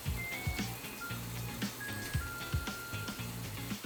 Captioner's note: oven timer goes off 🔔